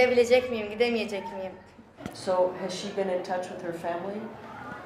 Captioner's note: woman speaking in Arabic